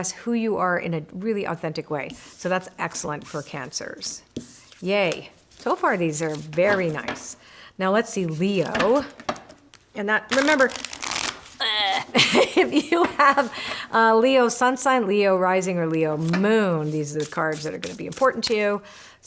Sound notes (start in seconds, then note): 10.6 cards rustle; 11.6 gags